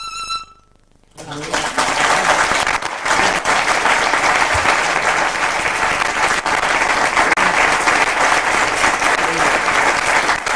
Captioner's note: music on violin; clapping